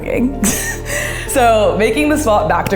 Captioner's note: chuckles